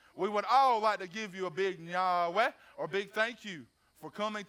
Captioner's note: speaks foreign language